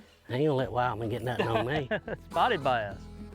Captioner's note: laughing; light guitar music